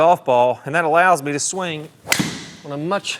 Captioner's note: club smacking